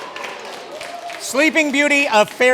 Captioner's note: loud cheers, clapping and ooohs